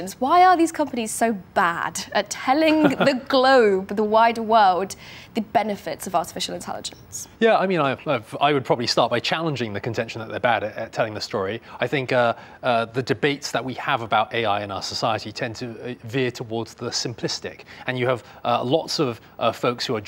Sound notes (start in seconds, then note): 2.6 laughs